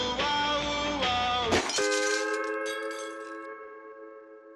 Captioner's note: shattering